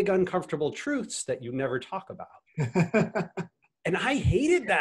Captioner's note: laughs